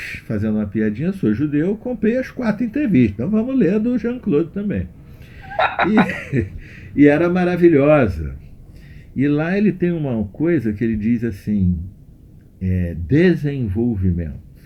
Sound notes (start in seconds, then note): 7.0 both laughing